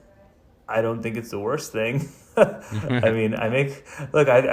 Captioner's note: laughs